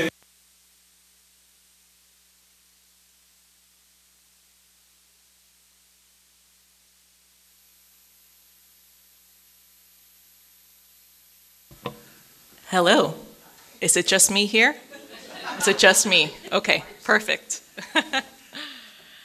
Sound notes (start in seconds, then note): 14.8 audience laughing; 17.4 laughs